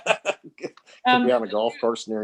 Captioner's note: laughs